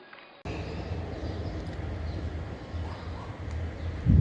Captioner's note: birds chirping